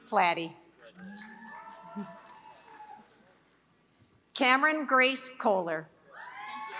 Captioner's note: applause; applause